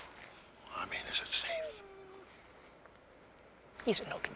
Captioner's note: Spencer chuckles; dog whimpers